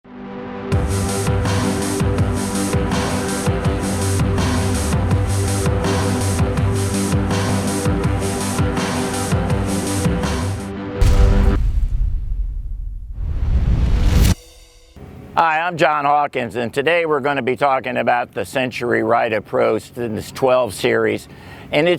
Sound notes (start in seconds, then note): 11.0 low metallic thudding; 13.4 heavy whooshing; 14.2 cymbal chinging